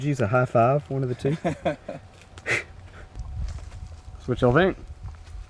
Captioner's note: Dave laughing